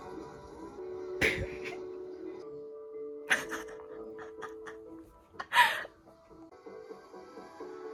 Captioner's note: me laughing again